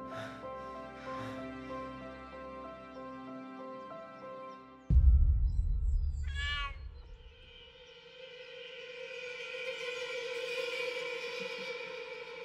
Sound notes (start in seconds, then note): 6.2 cat meowing